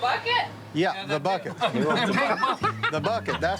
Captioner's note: laughing